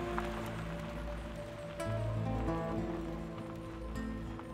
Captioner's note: gravel Crunching